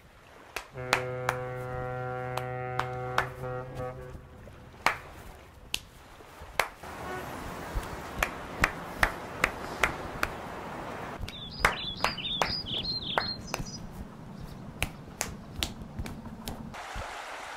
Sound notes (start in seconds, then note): 0.5 clapping; 6.8 clap Clap Clap Clap